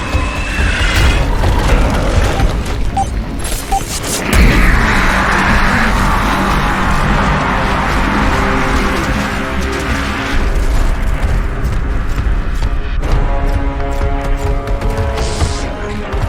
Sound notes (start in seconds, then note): 0.0 monster growling; 2.9 weapon beeping; 4.0 monster growling; 4.4 weapons buzzing; 10.4 footsteps thudding; 10.4 suspenseful music